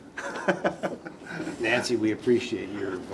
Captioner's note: laughter